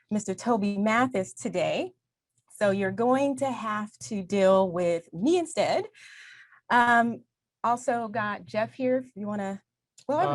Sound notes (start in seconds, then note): none